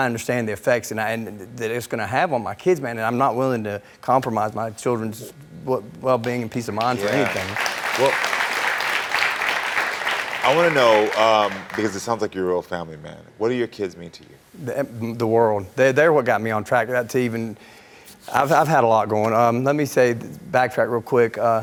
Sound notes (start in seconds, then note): 6.2 audience clapping